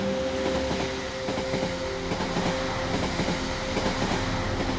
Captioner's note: train moving